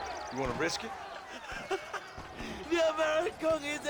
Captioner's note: laughs